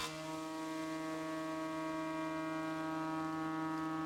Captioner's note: sound of sawing